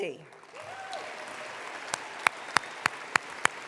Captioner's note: applause